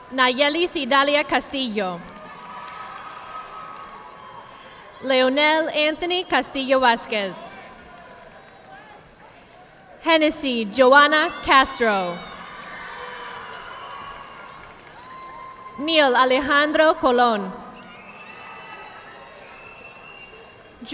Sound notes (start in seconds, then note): 2.0 audience clapping; 7.5 audience clapping; 12.2 audience clapping; 18.2 audience clapping